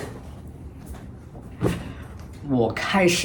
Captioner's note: thwump